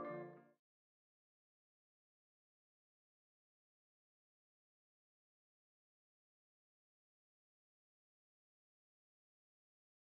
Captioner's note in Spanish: Silencio